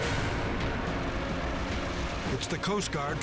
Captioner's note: helicopter whirring